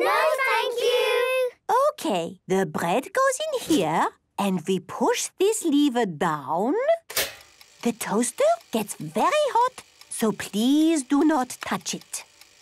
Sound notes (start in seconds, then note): 7.0 clicks